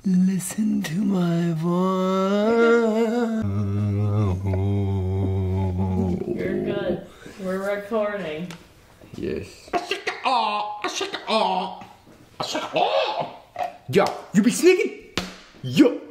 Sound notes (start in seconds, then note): 3.6 humming; 10.2 Kenny squawking